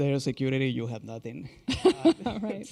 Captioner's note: chuckle